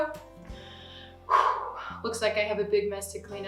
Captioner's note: exhales